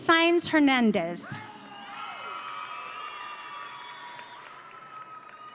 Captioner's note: audience cheering